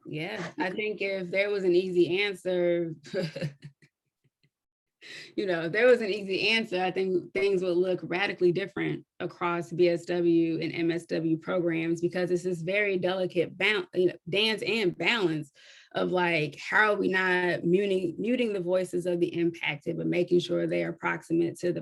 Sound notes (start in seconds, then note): 3.1 chuckles